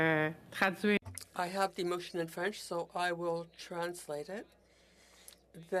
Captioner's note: speaking French